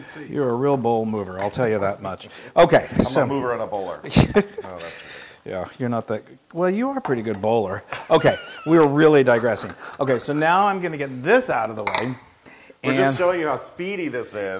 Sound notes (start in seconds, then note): 4.0 laugh; 7.9 laugh